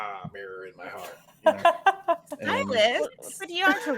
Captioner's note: all laughing